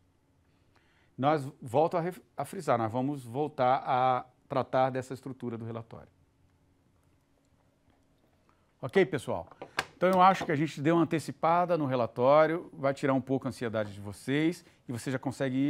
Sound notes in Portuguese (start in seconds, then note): 6.3 silêncio